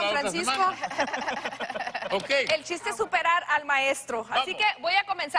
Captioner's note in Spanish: Risas